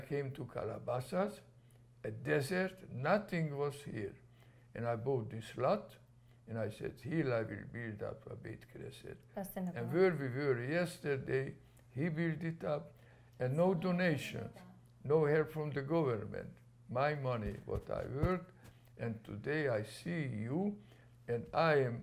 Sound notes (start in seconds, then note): 8.8 non-english